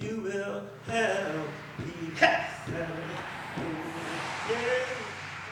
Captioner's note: cars whooshing